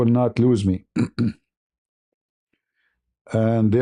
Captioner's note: berdehem